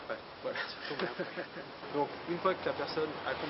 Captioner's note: laughter